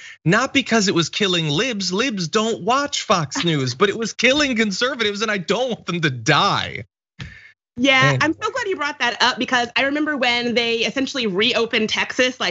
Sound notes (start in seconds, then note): 3.2 laugh; 6.0 laugh